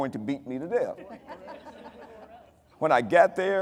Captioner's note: audience laughing